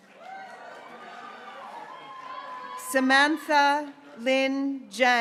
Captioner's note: graduates cheering